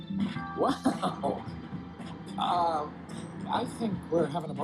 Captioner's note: chuckles